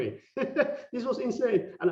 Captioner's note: laughing